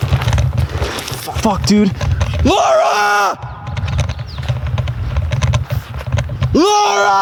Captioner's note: screaming